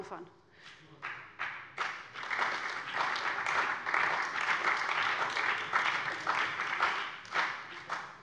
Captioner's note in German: Beifall bei dem BÜNDNIS 90/DIE GRÜNEN und der CDU